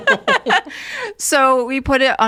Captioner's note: all laughing